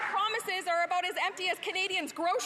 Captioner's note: applause